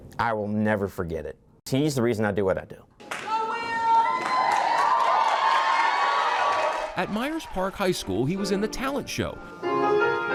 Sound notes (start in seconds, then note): 3.3 audience cheers; 4.0 audience applauds